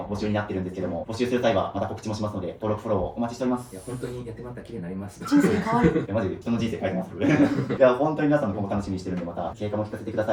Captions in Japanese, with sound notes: いや、本当にやってまた綺麗になりました。 人生可いい。[笑い] いや、マジ人の人生書いてます。いや、本当に皆さんのこも楽しみにしてるんで、また結果も聞かせてください。そして、あの、動画の最後までま、あの、減らし終わった後、ちょっとまたお父さんに動画とか。 [咳払い]